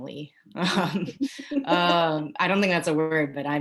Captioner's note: women laughing